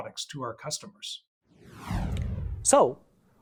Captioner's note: whooshing